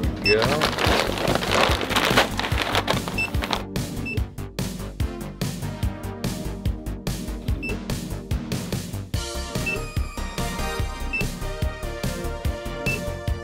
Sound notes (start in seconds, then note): 2.6 80s montage music continues; 4.3 scanner beeps; 9.4 80s montage music continues